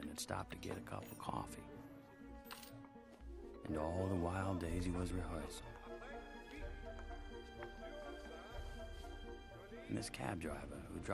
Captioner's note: sound of man dropping change on the counter